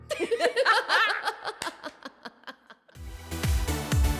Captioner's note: laughter